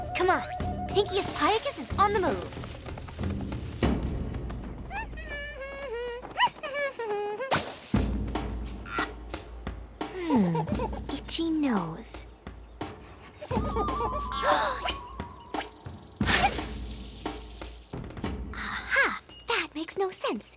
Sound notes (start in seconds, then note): 3.8 humming; 12.8 gasps